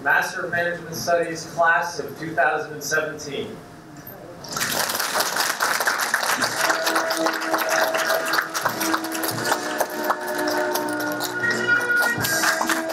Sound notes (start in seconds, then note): 4.4 applause; 6.4 orchestral music